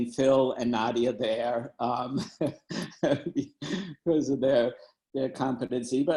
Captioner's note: laughing